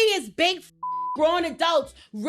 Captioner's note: beep